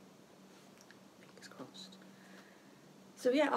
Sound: whispering

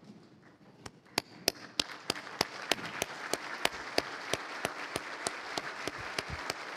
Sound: applause

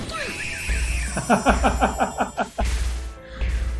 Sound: laughs

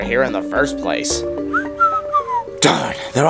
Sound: nervous Whistling

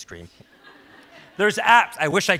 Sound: audience laughs

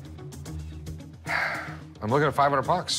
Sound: sigh

